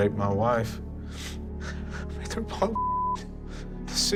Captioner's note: sobbing